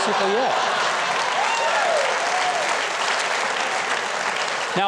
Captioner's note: audience applauds